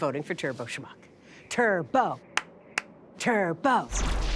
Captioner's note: chants